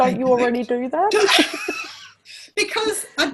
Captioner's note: laughs